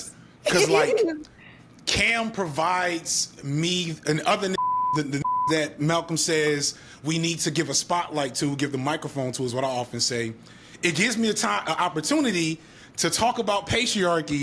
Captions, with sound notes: Because like, Cam provides me an other (beep) that Malcolm says we need to give a spotlight to, give the microphone to is what I often say. It gives me an opportunity to talk about patriarchy